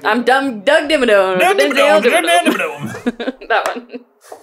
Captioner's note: mumble southern